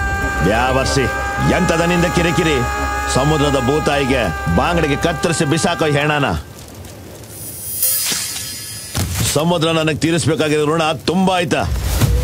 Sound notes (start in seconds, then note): 7.4 slashing